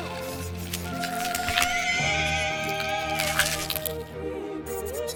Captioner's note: bones crunching and shrieker screams